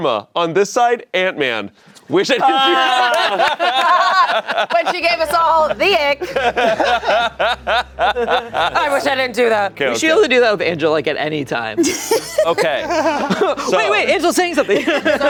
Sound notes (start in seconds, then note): 2.4 everyone laughing; 6.4 laughing